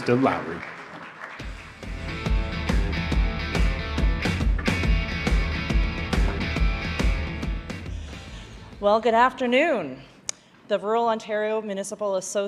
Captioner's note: applause